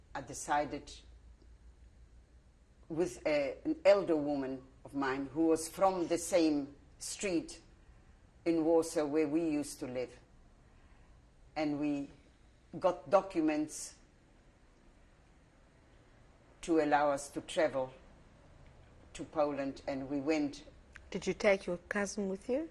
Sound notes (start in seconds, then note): 13.9 pauses for 3 seconds